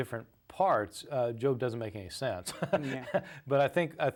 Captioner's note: laughs